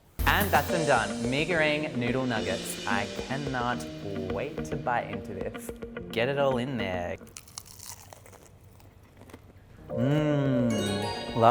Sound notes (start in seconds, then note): 0.0 makes noises with his mouth; 7.2 food crunches; 10.1 moans loudly; 10.5 low chiming